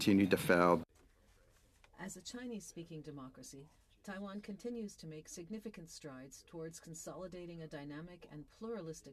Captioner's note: speaking French